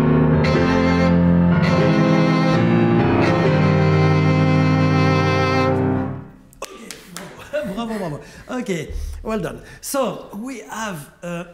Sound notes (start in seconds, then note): 6.5 clapping hands